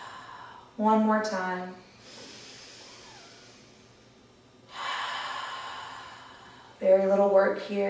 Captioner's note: big audible breath